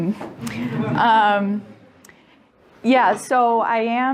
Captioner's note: audience laughing